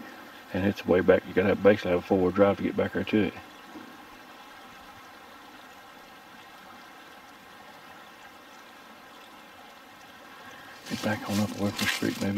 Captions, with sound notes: and it's way back, you got to basically have a four-wheel drive to get back there to it. (faint knock) (burbling water) If I back on up from this creek